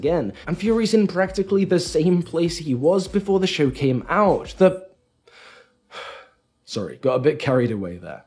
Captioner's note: breath